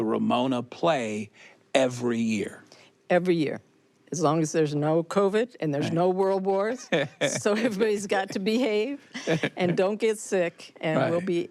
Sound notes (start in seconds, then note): 6.9 laughs